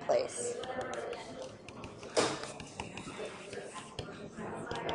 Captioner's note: stylus taps